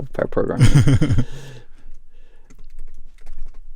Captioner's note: laughter